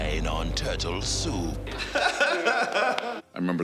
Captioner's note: laughing